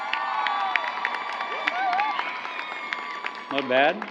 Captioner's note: applause